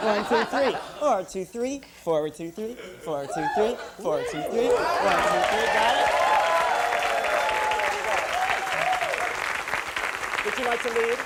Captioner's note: applause